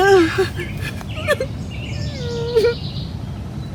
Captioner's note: sobbing